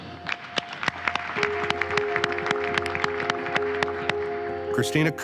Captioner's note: audience applauding